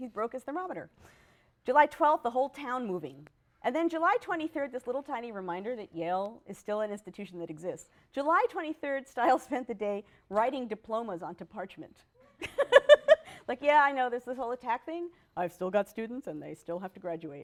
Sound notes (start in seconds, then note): 12.3 laughs